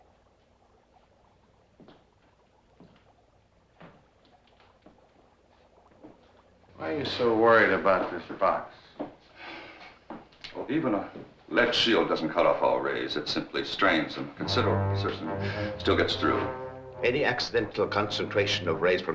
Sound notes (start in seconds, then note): 1.0 liquid bubbling; 9.4 Krenner sighs